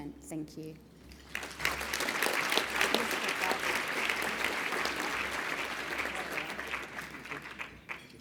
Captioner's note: applause